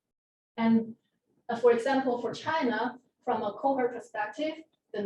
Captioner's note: none